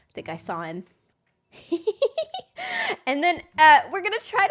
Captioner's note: laughs